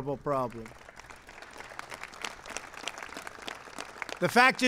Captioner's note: applause